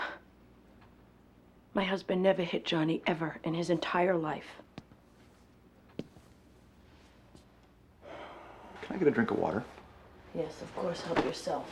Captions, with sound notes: My husband never hit Johnny, ever, in his entire life. (SIGHS) Can I get a drink of water? Yes, of course. Help yourself.